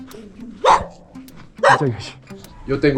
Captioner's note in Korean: 야밤에 개짖는 소리